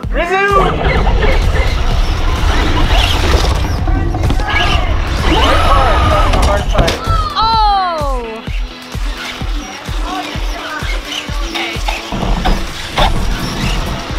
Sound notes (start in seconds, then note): 0.6 car whirs; 7.2 groans; 8.5 energetic music